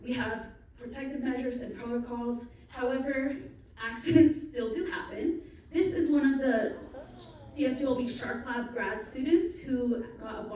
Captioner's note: crowd gasps